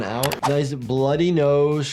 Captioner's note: mouse clicking